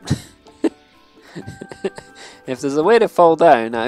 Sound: laughs

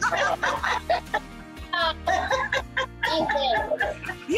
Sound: mom laughs

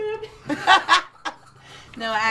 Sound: laughs

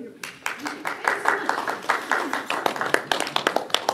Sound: applause

